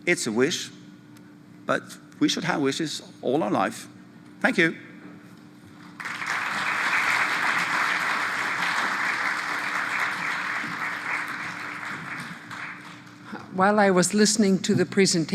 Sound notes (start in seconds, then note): 5.8 applause